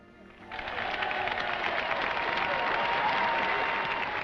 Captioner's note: crowd applauds